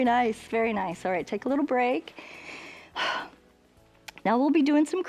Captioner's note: inhales and exhales